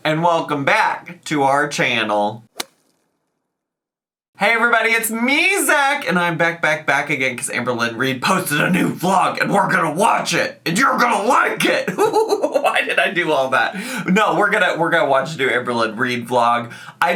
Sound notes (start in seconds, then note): 2.5 scene swishing; 11.8 laughs